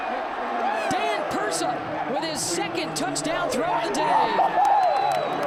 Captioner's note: applause